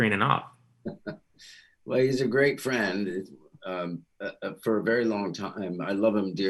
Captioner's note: chuckles